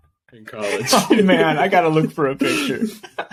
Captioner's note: laughing